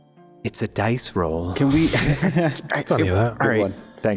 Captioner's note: laughs